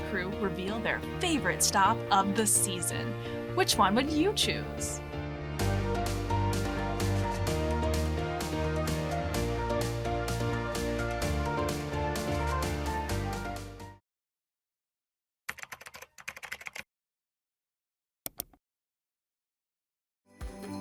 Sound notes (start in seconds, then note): 5.6 upbeat music; 15.5 keyboard clicking